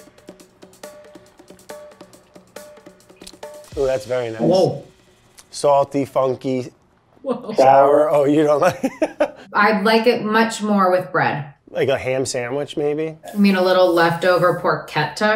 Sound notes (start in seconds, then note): 0.6 upbeat music; 8.3 laughs